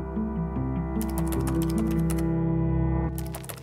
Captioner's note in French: clapotis de touches de clavier